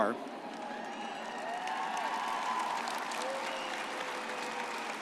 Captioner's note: audience cheers